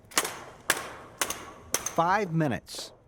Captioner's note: rhythmic slapping, stomping